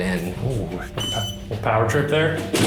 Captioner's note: keypad beeps